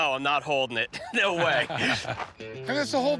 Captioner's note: laughter